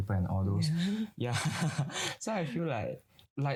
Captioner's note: chuckles